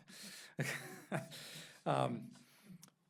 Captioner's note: laughs